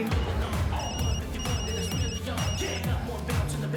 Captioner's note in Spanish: Suena el celular